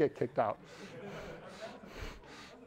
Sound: audience members laughing; speaks quietly without mic

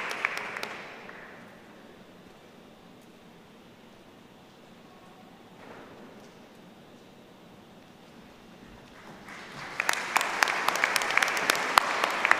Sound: applause

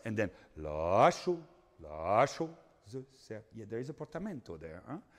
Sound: speaking in foreign language

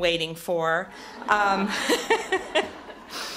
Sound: laughter

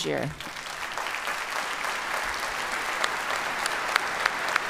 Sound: audience applauds

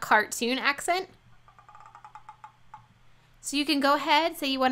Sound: croaks

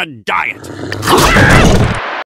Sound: growl; scream

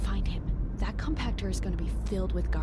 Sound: whispering

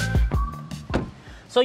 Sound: door closes

